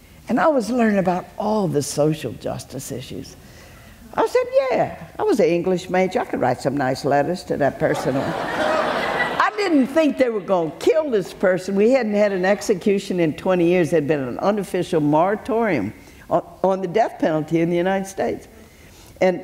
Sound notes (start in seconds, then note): 7.9 audience laughs